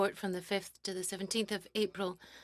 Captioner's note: speaking French